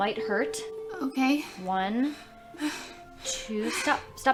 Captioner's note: labored breathing